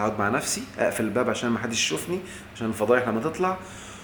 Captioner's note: sarcasm!